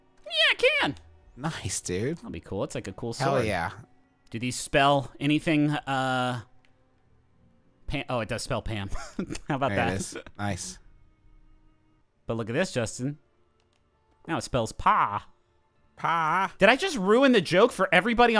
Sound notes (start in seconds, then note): 9.0 laughing